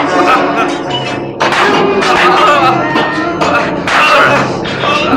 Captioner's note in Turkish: Duygusal film müziğine inlemeler, taşlara vuran balyozların sesi karışır